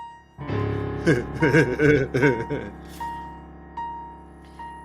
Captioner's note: Carl laughing